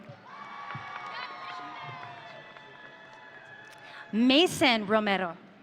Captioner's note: audience cheering